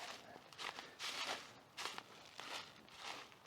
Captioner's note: footsteps